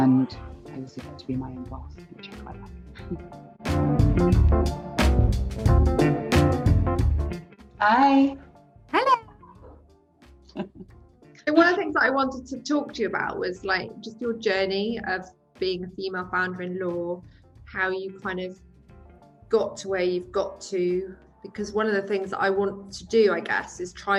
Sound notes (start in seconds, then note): 3.9 upbeat music; 10.5 laughs